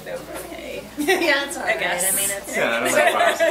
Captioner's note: laughs